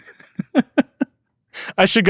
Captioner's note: laugh